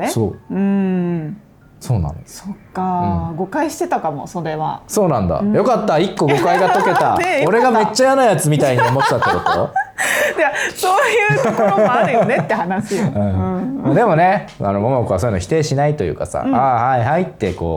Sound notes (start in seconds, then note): 13.0 laughs